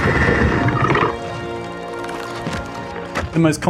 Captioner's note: swelling romantic music; crab rattling